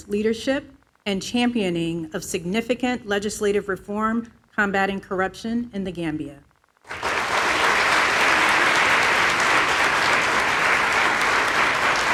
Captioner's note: applause